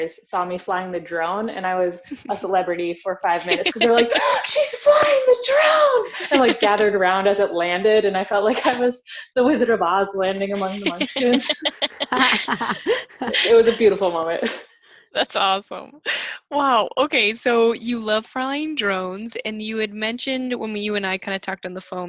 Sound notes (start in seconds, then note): 10.5 all Laugh